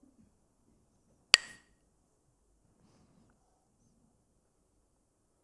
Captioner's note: clacks the sticks